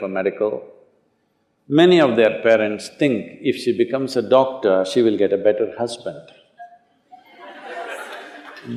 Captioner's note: laughter